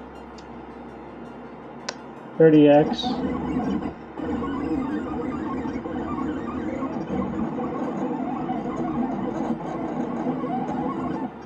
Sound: squeaky-creaky noises

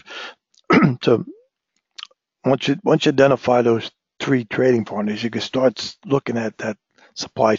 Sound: cough

